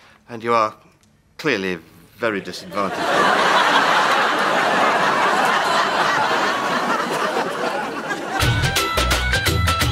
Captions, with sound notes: And you are clearly very disadvantaged. (Audience laughs)